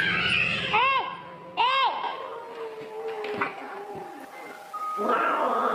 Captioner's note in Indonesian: berteriak